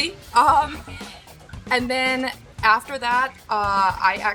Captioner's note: chuckling